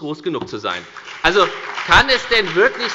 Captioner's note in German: Beifall bei der FDP und der SPD